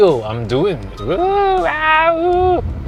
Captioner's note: wildlife mating call